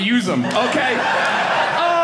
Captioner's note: audience laughing